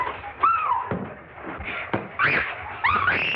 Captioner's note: women squeal; both screaming